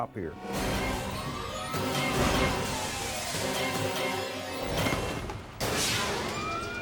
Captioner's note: dramatic music; sirens wailing